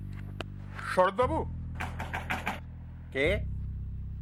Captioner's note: knocking Again